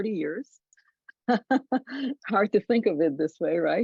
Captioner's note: laughs